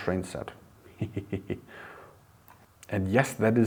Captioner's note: laughing